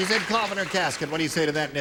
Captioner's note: applause